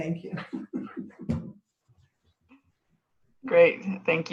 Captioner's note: laughing